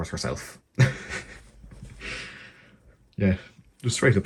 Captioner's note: chuckling